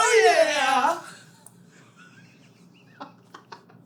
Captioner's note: giggles abound